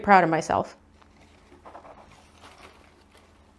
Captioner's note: barely audible: lichen rustles